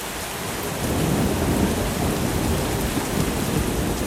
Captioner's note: thunder